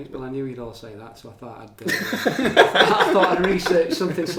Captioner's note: laughing